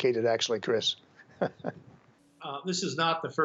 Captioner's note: laughter